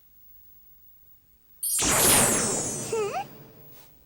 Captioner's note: zaps